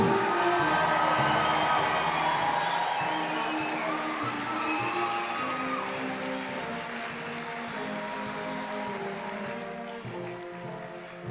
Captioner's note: applause, cheering